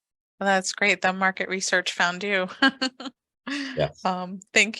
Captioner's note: laughs